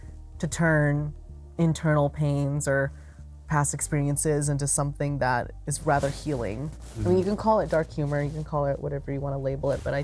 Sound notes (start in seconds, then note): none